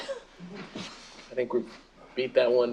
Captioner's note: laughter